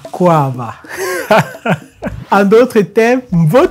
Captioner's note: laughter